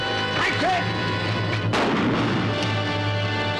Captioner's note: gunshot; dramatic music plays